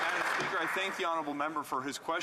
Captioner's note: some Applause